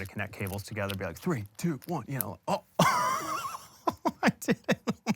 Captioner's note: chuckles